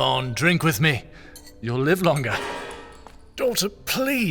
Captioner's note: metal clanging of something being dropped across the room